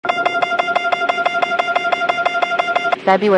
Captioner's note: alarm